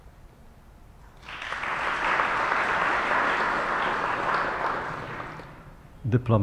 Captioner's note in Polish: oklaski